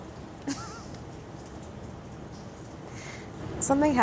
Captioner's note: laughs